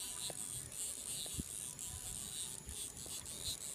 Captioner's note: rod reeling